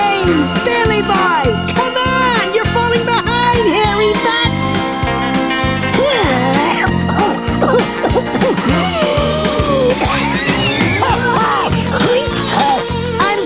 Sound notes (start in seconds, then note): 5.9 coughs; 9.3 wheezes